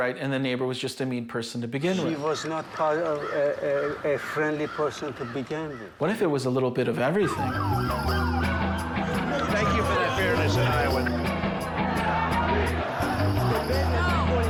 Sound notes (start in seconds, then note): 7.2 sirens blaring; 7.2 lively music; 11.5 people chanting